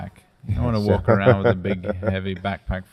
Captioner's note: laughs